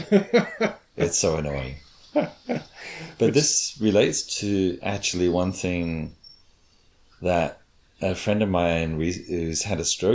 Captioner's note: laughs